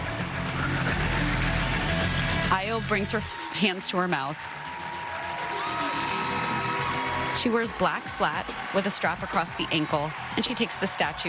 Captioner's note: applause